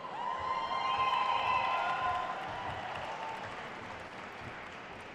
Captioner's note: attendees cheering and applauding